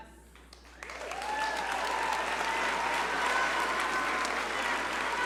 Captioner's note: audience cheer and applaud